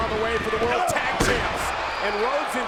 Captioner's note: body thudding